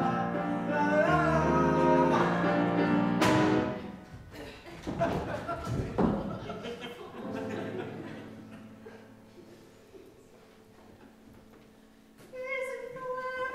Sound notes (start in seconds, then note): 4.8 Bob thuds; 9.6 audience laughs